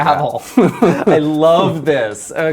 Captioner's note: laughing